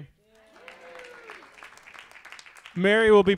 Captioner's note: audience applauds